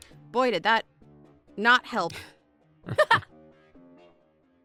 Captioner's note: chuckles